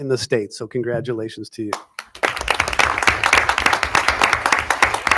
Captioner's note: audience applauding